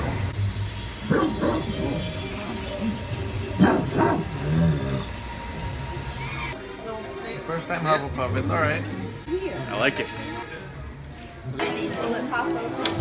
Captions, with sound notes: [dog barking] First time Hufflepuff, it's alright. I like it!